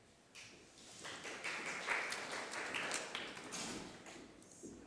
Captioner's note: applause